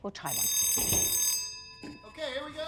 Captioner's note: bell ringing